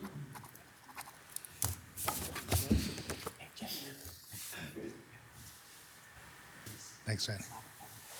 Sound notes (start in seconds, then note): 0.6 pen scribbling